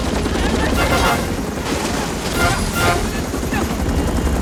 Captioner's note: Korean; Shouting In Korean